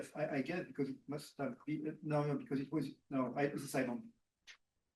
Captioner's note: speaking faintly